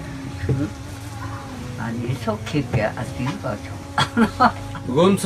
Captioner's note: laughing